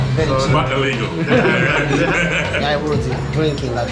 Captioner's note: laughs